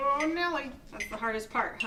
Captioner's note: metronome beats